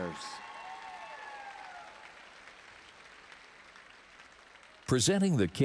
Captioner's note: audience applauding and cheering